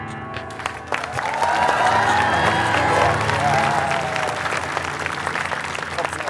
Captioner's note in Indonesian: Tepukan penonton